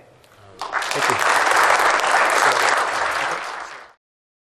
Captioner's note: applause